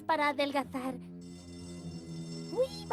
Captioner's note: school bell ringing